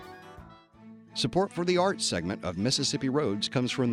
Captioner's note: voiceover